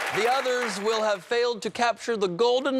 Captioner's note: cheers and applause